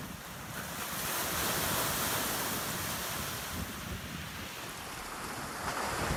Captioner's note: waves crashing